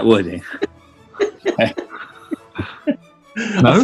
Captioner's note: giggling